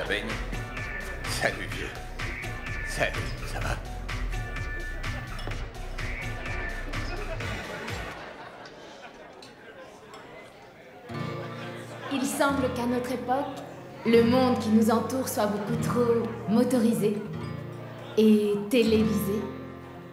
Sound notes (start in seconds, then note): 0.9 indistinct conversation